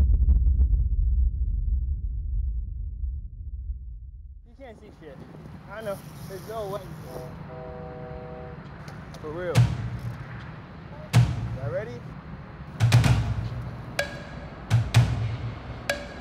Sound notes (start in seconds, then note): 7.1 train horn; 10.8 drum beats